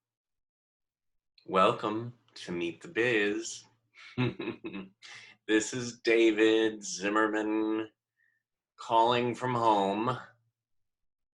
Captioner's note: giggle